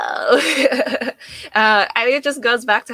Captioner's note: laughing